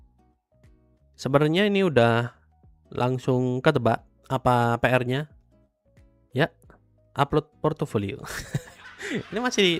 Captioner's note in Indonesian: tertawa